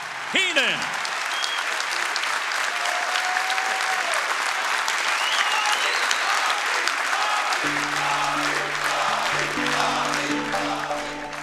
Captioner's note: applause